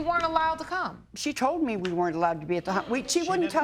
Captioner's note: crowd gasps